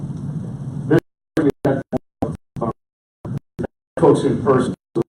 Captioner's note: audio cutting out